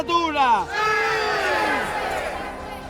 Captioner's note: all exulting